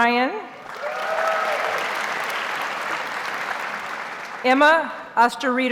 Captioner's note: audience cheers and applauds